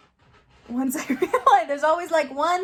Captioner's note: laughs